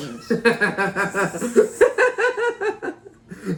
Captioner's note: both laugh